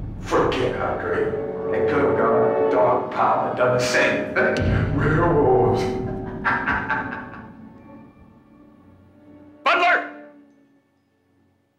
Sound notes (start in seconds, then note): 5.8 laughs